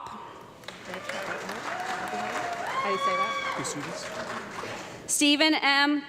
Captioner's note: audience clapping and some cheering